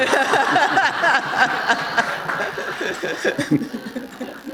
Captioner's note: laughter